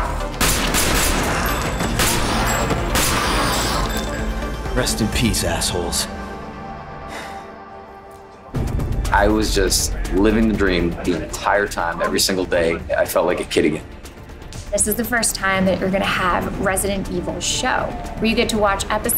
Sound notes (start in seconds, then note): 0.3 guns blare